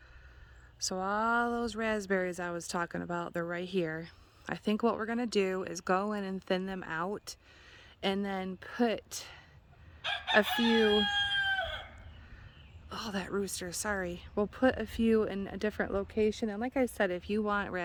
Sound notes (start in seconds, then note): 10.0 rooster crows